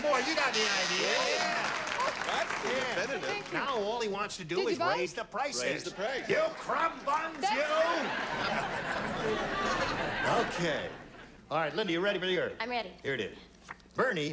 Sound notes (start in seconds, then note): 7.6 laughter